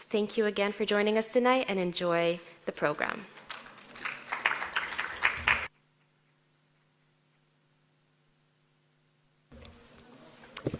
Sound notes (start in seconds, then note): 3.4 audience applauding